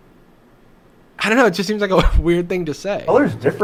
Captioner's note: laughs